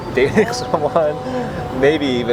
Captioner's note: laughs